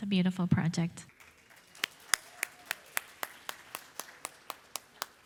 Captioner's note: audience applauding